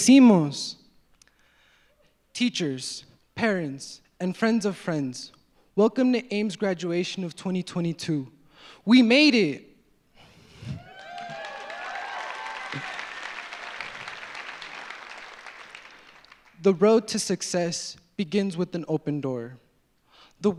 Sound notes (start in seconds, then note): 10.7 audience cheers; 10.7 audience applauds